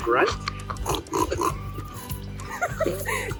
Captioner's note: squeels; laughs